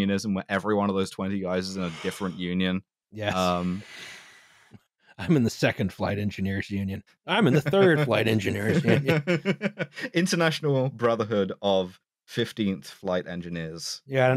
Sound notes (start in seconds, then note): 7.4 laughing